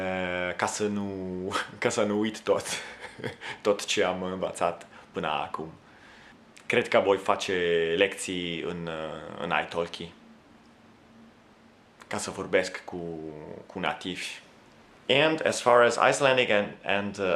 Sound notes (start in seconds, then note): 6.6 conversation